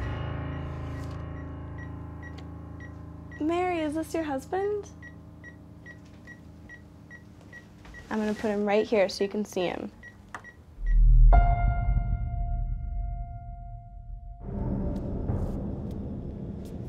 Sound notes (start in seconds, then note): 4.9 beeping; 10.8 ominous music